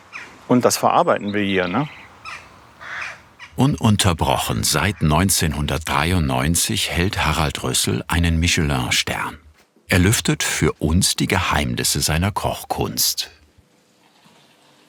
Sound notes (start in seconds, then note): 2.3 bird sounds